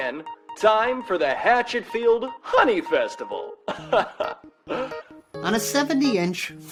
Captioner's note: laughs